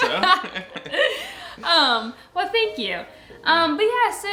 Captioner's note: laughing